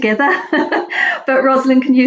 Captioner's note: laughs softly